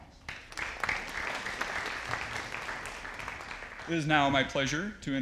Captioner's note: audience applauding